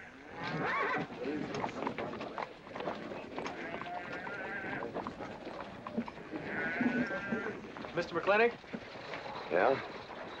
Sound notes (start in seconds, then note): 0.4 horse neighing; 1.3 men murmuring